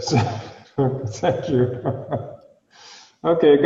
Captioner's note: laughing